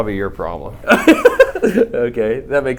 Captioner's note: laughs